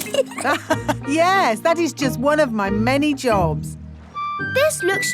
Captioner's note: laughs